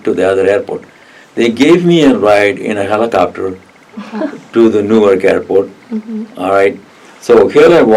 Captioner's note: laugh